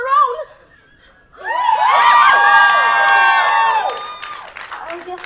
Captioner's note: enthusiastic cheers